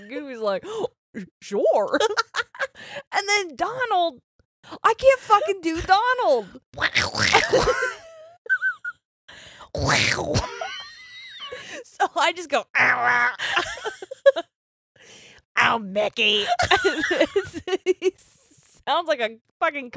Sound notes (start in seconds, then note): 1.9 laughs; 6.8 quacking thickly; 9.3 both laughing; 11.1 quacking thickly; 12.8 honking; 16.4 both laughing